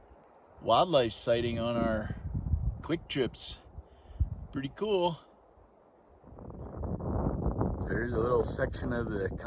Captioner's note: wind noises